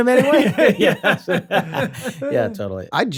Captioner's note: laughter